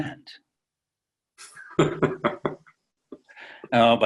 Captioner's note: Bashir laughs